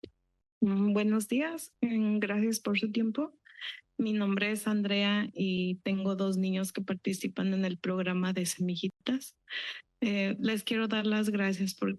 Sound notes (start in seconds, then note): 0.8 foreign language